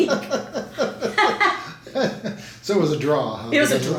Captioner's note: both laughing